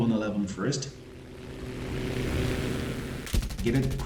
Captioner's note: aircraft Engines ,Gunfire, Flying Sounds